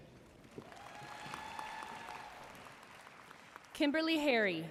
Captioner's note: audience cheering and applauding